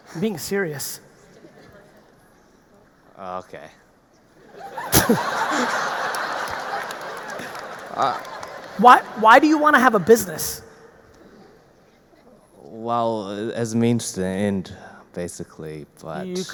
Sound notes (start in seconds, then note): 4.4 all laughing; 4.8 audience applauding